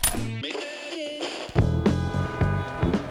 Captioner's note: radio Tuning Sounds